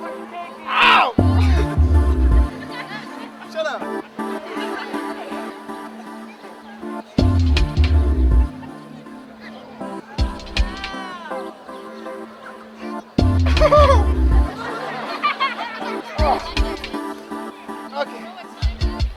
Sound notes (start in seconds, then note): 2.0 audience laughing; 4.9 thrilling music continues; 13.8 chuckles; 15.5 audience laughing